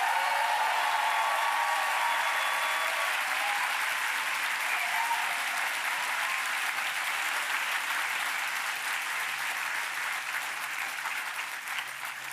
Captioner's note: applause